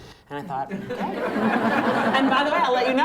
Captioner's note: laughter